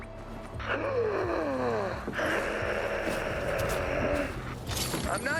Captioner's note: heavier breathing